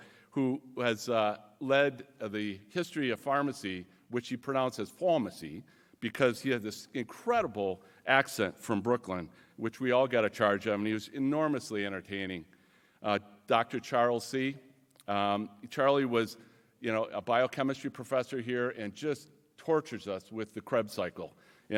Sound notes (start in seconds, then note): none